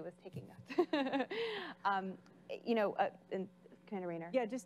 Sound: laughing

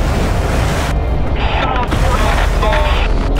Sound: radio static

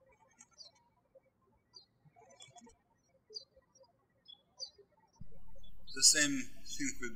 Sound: birds chirping

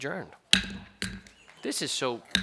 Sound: gavel bangs

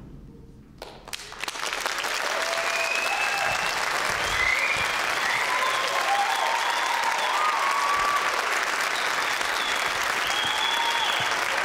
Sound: applause, cheering

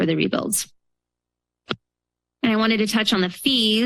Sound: pause

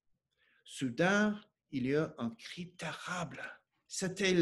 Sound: speaking French

